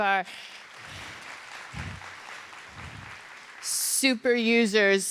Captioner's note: audience applauding